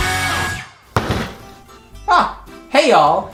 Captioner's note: Dr Pepper slams on table